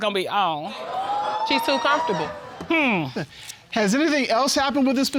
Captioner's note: whooping